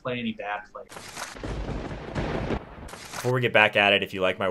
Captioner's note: thunderbolt strikes